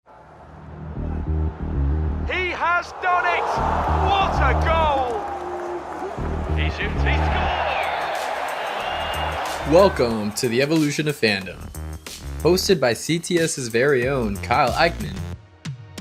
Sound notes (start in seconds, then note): 5.2 crowd cheering; 8.1 crowd cheering; 15.7 upbeat music